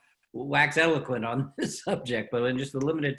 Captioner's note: laughs